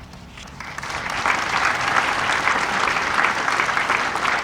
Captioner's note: audience applauding